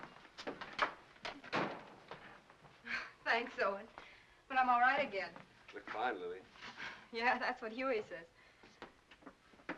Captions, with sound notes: (door closes) - Thanks Owen, but I'm all right again. - You look fine, Lily. - Yeah, that's what Hewie says.